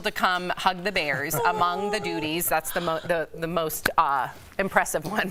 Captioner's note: laughter